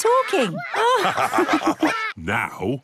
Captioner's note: all laugh